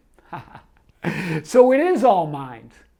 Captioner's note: laughs